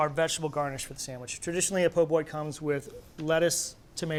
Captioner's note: none